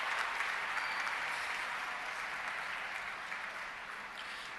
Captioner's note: applause